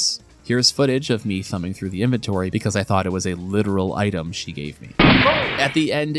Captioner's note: gunshot